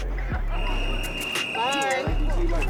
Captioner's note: hip hop beats begins; whistle blows